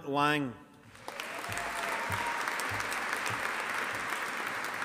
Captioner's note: audience applauding